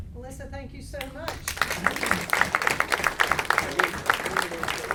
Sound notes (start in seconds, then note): 1.2 applause